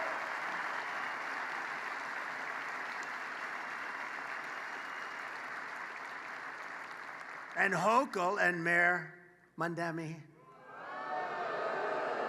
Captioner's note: applause